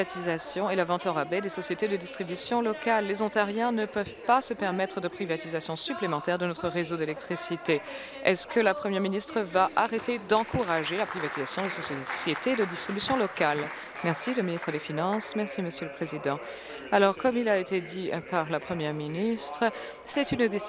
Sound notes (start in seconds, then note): 13.7 applause